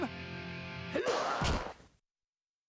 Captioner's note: grunting